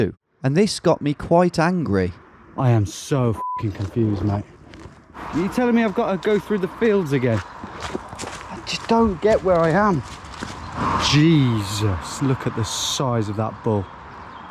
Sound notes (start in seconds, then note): 3.3 beep